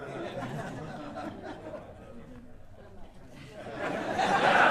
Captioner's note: audience laughing